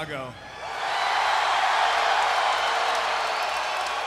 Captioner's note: crowd cheers